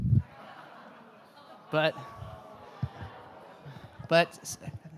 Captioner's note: audience laughs